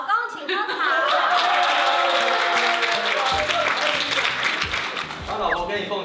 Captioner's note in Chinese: 歡呼聲